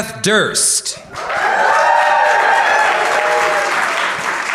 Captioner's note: audience cheering and applauding